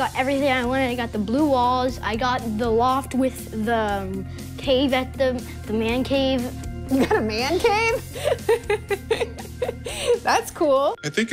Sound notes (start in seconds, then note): 6.9 laughs